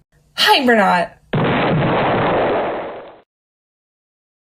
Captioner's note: explosion